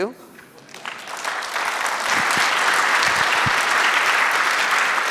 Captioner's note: audience applauding